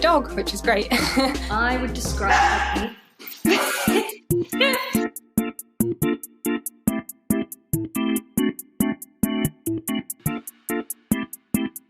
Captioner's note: woof!